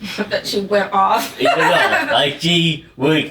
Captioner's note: laughs